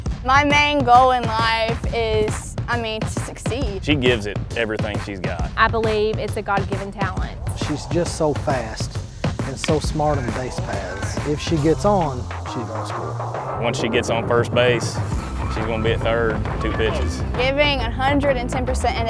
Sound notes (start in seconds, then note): 9.7 murmurs